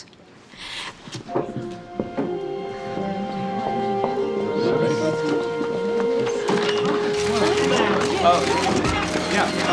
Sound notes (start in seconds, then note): 0.5 inhales sharply; 4.1 people murmuring; 7.0 cameras clicking